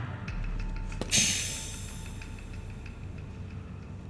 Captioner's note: air releasing